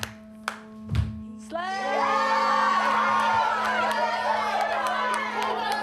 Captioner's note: cheering, excited chatter